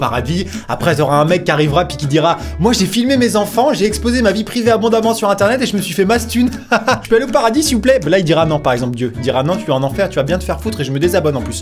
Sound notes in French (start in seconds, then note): 6.4 rire